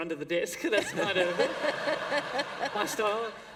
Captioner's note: laughter